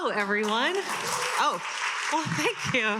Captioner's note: attendees cheering and applauding